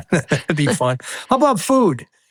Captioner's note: laughing